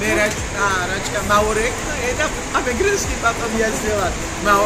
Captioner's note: foreign language